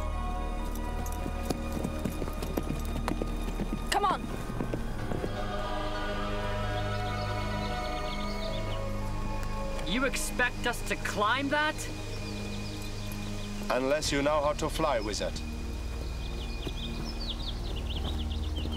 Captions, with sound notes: (horse galloping) - Come on. - You expect us to climb that? - Unless you know how to fly, wizard. (footsteps)